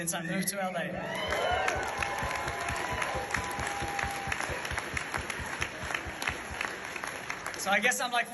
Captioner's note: audience cheers